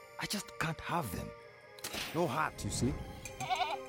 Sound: clicking; bleating

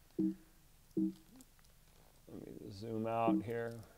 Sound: computer beeps

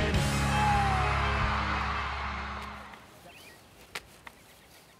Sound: audience cheering; birds chirping

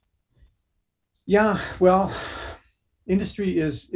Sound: sighs heavily

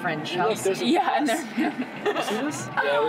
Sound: laughing

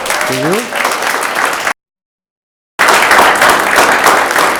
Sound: audience applauds

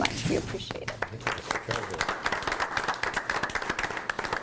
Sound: group applauds

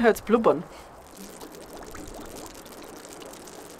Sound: bubbling

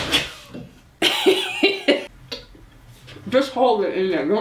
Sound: laughs

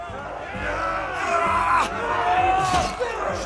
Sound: shouting

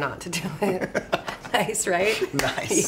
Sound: chuckle

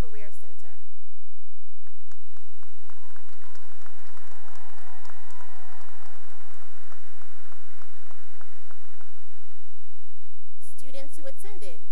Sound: cheering and applause

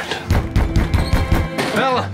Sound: knocks on door

